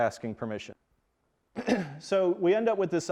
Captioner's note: clears throat